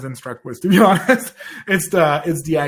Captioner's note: laughs